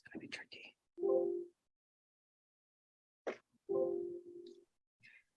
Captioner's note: computer notification rings